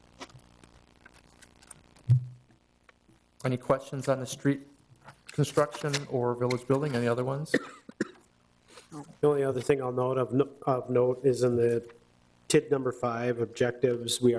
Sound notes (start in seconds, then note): 7.5 board member coughs